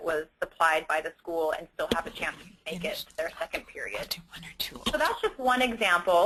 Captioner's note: whisper